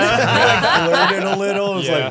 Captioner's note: all laughing